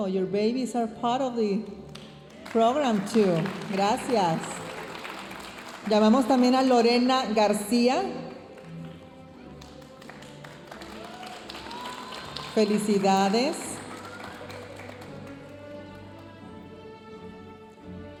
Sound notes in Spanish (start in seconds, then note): 0.1 hablando en inglés; 4.6 aplausos de la audiencia; 13.8 aplausos de la audiencia; 17.9 continúa la música majestuosa suave en el fondo